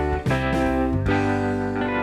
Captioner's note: none